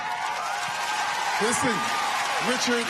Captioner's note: cheers and applause